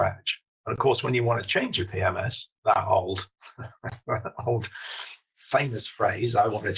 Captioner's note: laughs